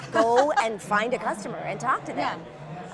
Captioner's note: laughing